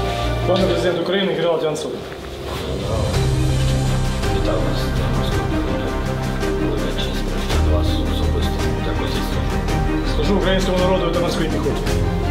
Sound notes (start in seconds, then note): 2.2 applause + music